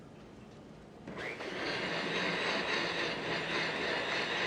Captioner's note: blender whirring